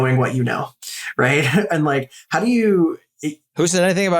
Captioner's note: laugh